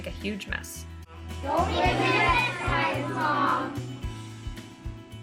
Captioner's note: kid voices